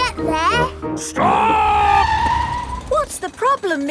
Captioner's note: tires screeching